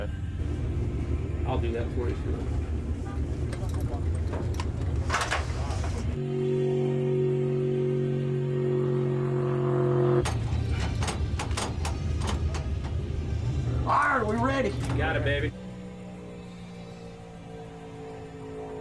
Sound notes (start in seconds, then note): 6.7 car engine roars; 10.2 metal clangs; 15.4 car engine roars